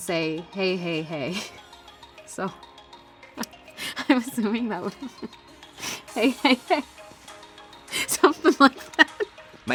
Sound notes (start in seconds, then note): 7.9 laughing